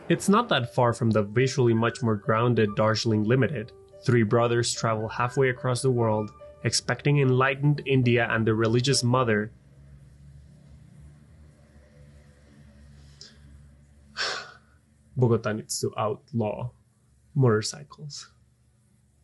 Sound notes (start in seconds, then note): 9.1 motorcycle noises